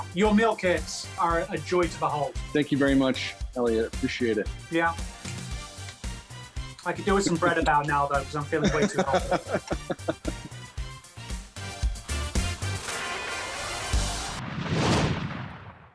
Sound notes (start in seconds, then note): 9.9 laughing; 12.4 upbeat music